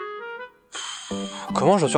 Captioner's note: sigh